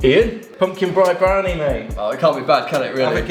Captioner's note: murmurs